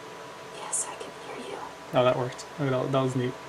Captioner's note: whispering